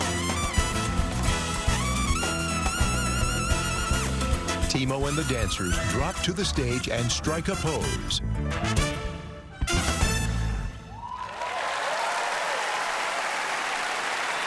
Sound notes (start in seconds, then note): 9.9 song ends; 10.8 cheering and applause